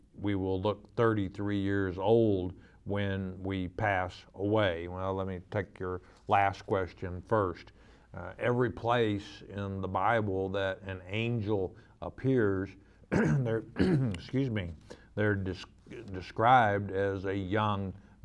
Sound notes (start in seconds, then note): 13.0 clears throat